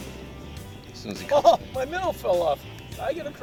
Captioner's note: laughs